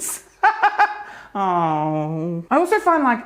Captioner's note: laughs